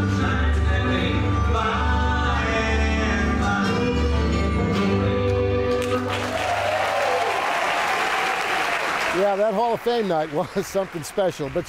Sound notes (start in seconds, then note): 0.0 upbeat music; 5.7 audience applauding